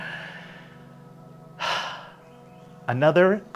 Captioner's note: sighs deeply